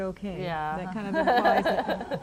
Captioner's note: laughter